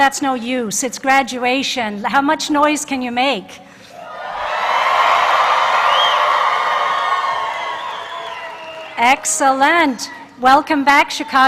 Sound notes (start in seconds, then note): 6.7 cheers and applause